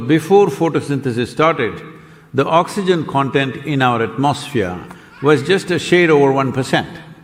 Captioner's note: laughs